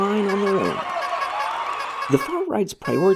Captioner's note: crowd roars & cheap horn toots